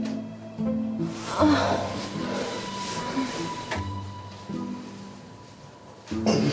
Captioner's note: love making sounds